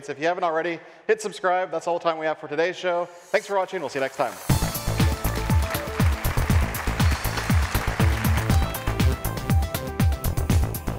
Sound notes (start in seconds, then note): 3.5 upbeat electronic music; 4.5 audience applauds